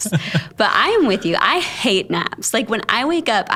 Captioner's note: both laughing